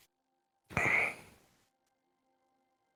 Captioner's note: soft grunt